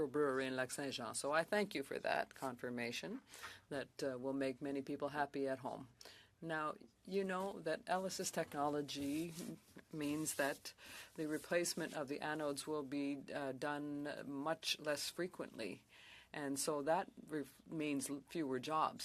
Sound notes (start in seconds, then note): 7.7 speaking French